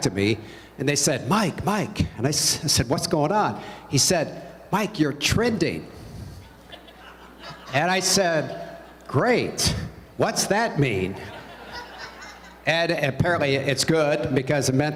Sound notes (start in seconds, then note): 6.4 laughter; 11.1 laughter